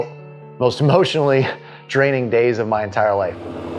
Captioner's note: chuckling